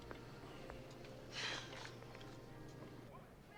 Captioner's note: sighs